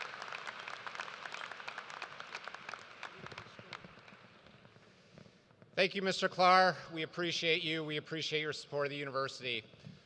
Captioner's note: cheers and applause